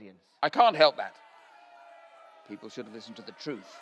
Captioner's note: crowd booing and shouting